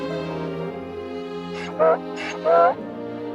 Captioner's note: Donkey's bray